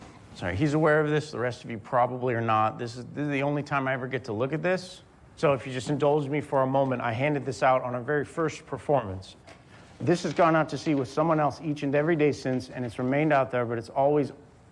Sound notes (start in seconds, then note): none